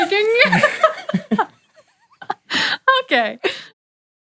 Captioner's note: laughs